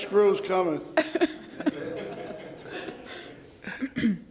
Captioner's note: laughter